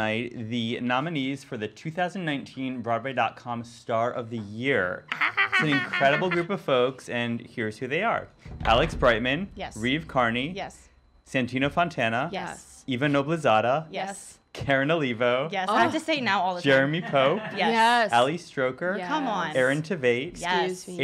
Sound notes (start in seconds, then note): 4.9 squealing; 8.1 drumrolling